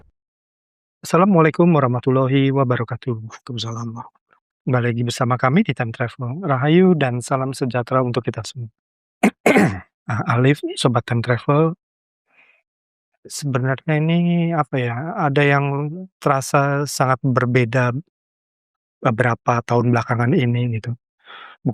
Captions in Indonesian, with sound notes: Asalamualaikum warahmatullahi wabarakatuh. Waalaikumsalam. Kembali lagi bersama kami di Time Travel. Rahayu dan salam sejahtera untuk kita semua. [berdehem] Ah, Alif, Sobat Time Travel. Sebenarnya ini apa ya? Ada yang terasa sangat berbeda beberapa tahun belakangan ini gitu.